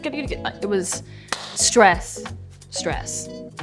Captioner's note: claps